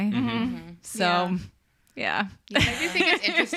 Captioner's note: laughs